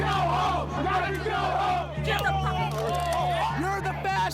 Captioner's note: chanting; shouting